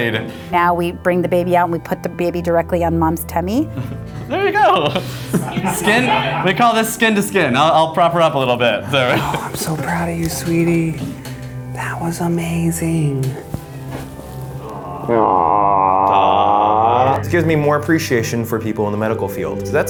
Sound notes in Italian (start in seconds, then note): 3.7 risate; 8.8 dolcemente; 11.8 sussurra